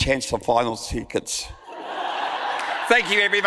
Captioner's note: audience laughs